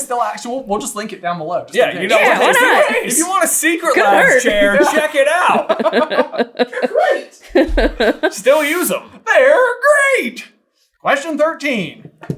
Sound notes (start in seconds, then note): 3.7 team laughter; 7.4 chuckling